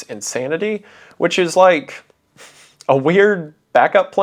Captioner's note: chuckles